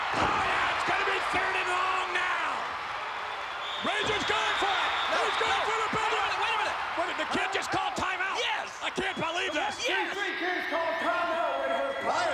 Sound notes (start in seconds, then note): 0.0 spectators cheering; 3.1 referee whistling